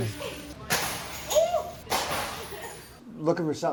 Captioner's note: item smashes